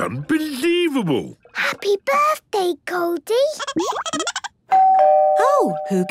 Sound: Goldie giggling; doorbell ringing

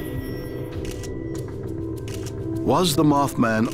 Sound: camera shutter clicking

